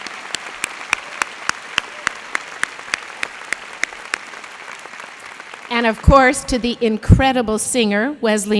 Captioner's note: applause